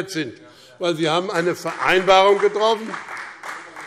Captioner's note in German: Beifall BÜNDNIS 90/DIE GRÜNEN und CDU - Anhaltende Unruhe - Glockenzeichen